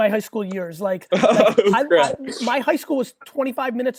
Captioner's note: laughs